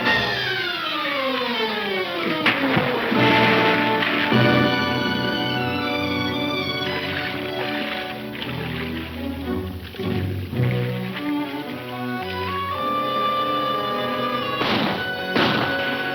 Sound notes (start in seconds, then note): 1.1 water splashing; 7.8 water swishing; 14.5 gunshots